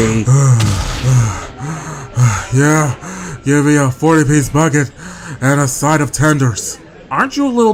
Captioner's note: breathing heavily